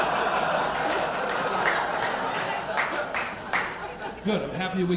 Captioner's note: audience applauding